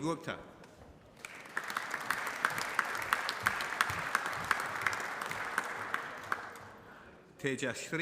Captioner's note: applause